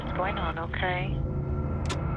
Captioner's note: clicking